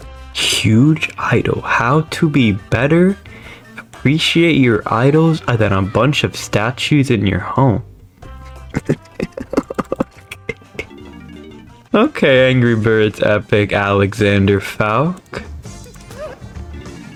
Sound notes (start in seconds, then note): 3.0 inhales Oxygen; 8.5 laughs to myself